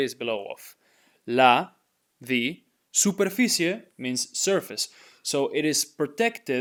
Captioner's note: speaking in Spanish